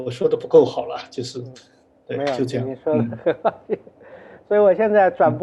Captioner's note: laughs